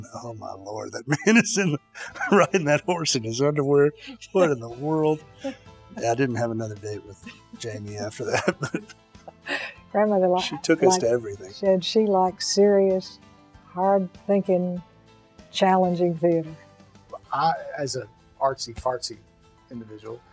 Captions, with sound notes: "Oh my lord that man is riding that horse in his underwear!" "What in the world?" Yeah I didn't have another date with Jamie after that. (laughs) She took us to everything. - She liked serious, hard-thinking, challenging theater. - I, as an artsy-fartsy individual,